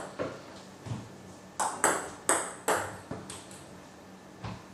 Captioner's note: balls ping pong hitting continues